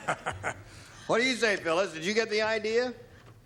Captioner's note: laughs